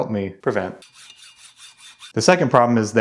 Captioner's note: saw rustling